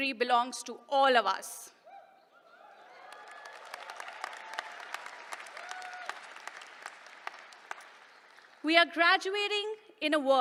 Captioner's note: applause